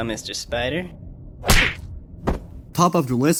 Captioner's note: smack